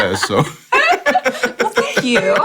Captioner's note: laughter